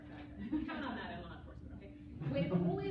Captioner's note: laughter